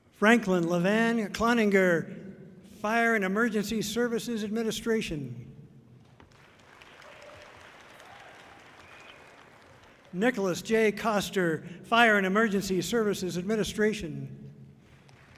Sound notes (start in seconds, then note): 6.1 audience clapping loudly